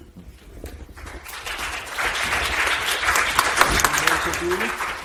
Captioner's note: audience applauds